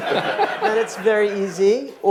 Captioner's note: audience laughing